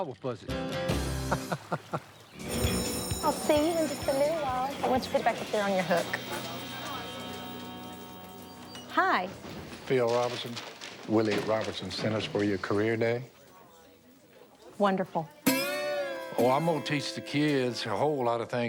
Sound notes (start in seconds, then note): 1.2 laughter; 2.2 school bell